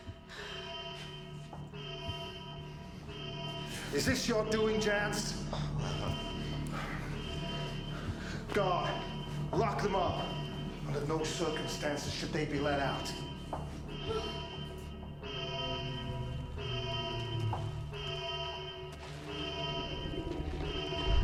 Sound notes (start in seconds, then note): 0.2 alarm blaring; 13.5 alarm blaring